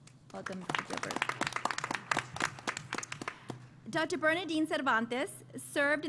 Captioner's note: applause